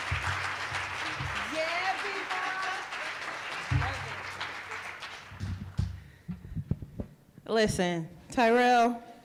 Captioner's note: cheering and applause